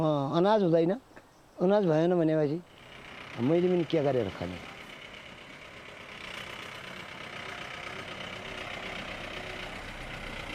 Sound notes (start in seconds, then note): 5.9 engine running